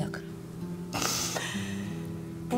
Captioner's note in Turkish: Ağlıyor